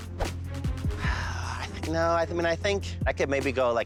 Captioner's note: sighs